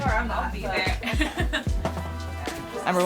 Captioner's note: laughing